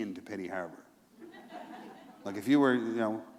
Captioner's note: laughter